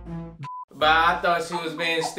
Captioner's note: beep